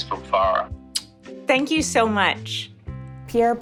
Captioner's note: kisses